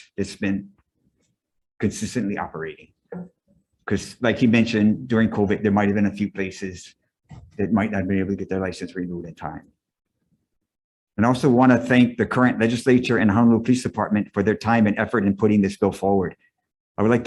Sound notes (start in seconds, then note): none